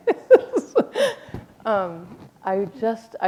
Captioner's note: chuckle